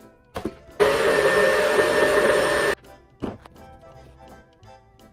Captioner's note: blender whirring loudly